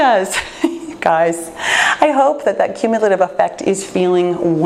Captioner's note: laughs